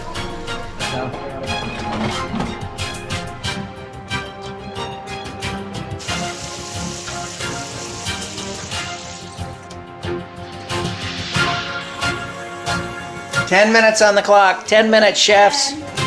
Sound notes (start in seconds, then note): 11.7 spray can hissing